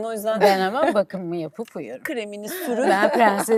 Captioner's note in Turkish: kahkaha